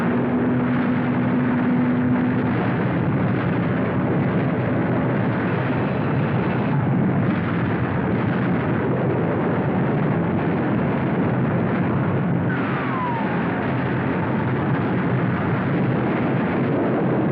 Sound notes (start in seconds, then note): 12.5 bomb Whistling